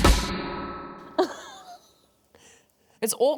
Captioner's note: laughs